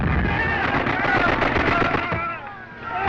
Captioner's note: gunfire